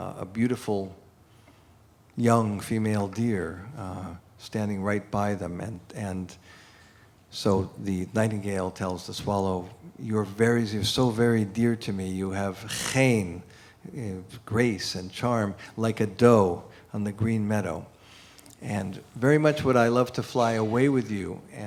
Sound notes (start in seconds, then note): 12.9 non-english speech